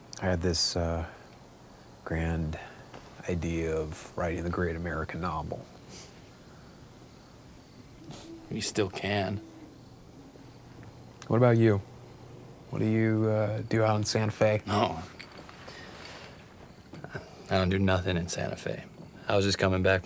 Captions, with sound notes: - I had this uh, grand idea of writing the great American novel. (crickets chirping) - You still can. - What about you? What do you uh, do out in Santa Fe? - Oh (laughs). Uh, I don't do nothin' in Santa Fe. I was just comin' back from